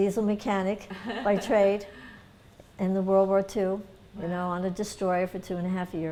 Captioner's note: laughter